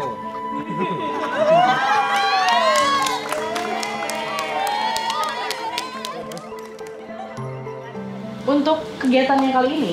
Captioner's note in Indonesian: Participants laugh and applaud